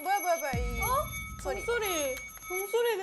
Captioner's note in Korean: 그 순간 들리는 의문의 종소리